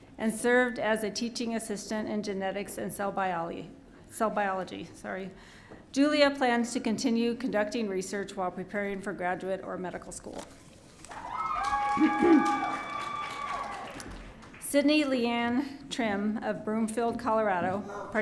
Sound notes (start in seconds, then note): 11.1 audience cheering